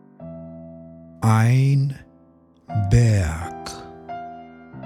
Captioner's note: german